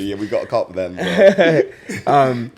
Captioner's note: laughs